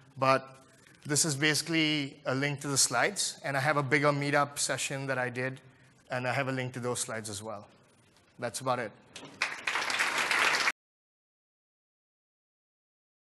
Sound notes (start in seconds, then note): 9.2 applause